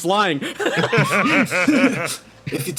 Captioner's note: laughs